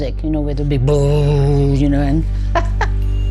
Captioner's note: laughs